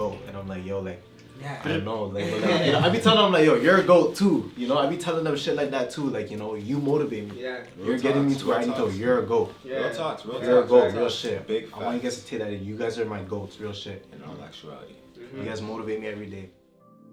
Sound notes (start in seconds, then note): 2.2 laughter